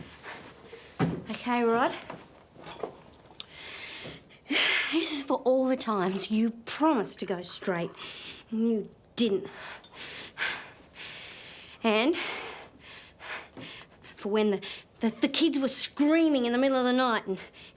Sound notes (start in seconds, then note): 3.4 sighs